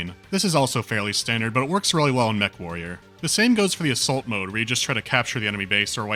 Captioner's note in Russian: none